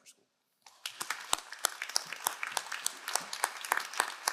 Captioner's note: all applauding